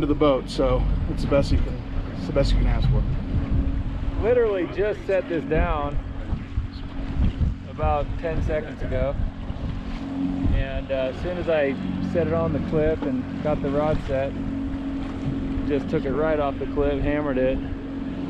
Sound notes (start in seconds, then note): 4.9 boat engine running